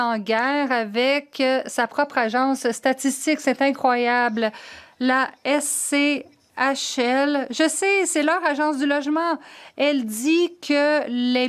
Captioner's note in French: voix de l'interprète